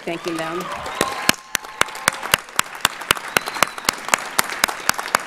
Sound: audience cheers and applauds

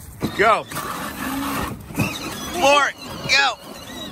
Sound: motor roaring

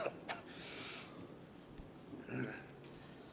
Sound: man coughing

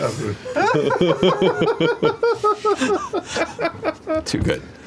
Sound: laughter

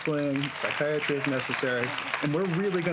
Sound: applauding

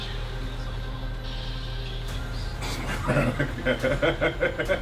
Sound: laugh

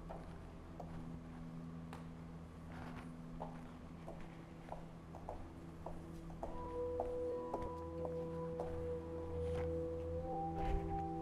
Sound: footsteps

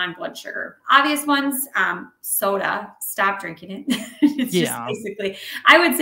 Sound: laughing

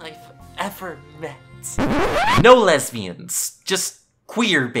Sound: record scratch

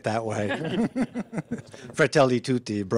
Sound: laughing

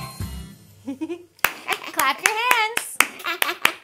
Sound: clapping; chuckling

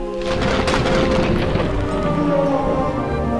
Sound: electricity crackling; thuds from above; thunder

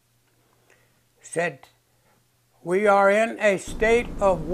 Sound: bombs exploding

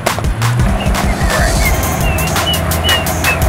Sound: whistling

